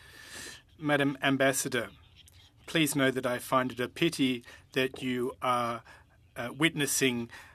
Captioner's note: speaking French